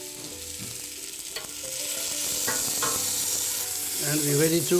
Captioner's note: sizzling